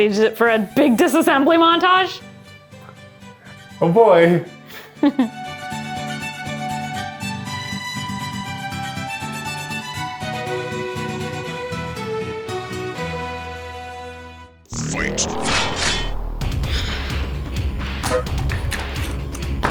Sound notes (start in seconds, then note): 5.3 classical music; 15.2 distorted voice: FIGHT; 16.8 dramatic music